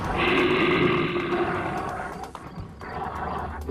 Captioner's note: bear growling